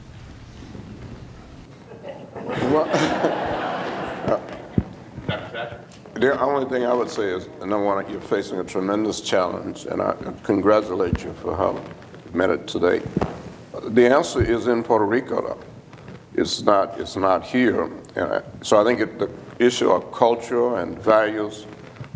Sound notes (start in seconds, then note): 1.7 laughter